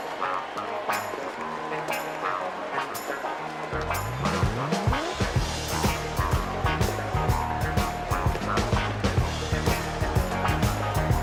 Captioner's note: cheers and applause